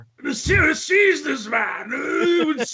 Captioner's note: groans